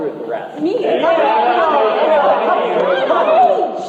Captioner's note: crowd heckles